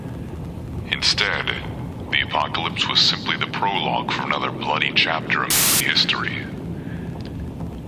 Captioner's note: radio static